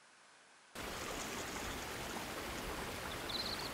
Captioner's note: stream burbles